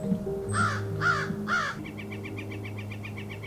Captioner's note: crow cawing; bird calling